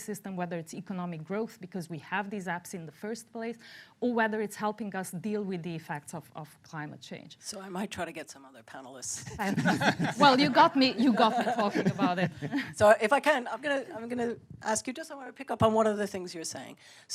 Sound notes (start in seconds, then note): 9.3 laughter